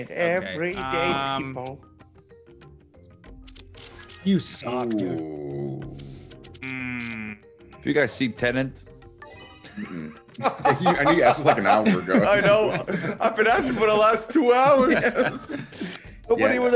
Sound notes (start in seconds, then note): 9.7 laugh